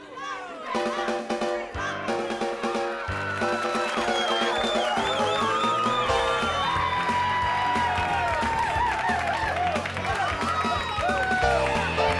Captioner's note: crowd cheering